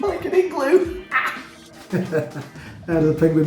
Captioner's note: laughs